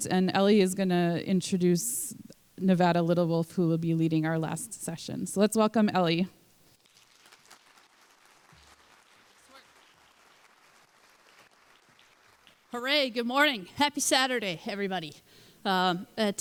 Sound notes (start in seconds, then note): 6.8 applause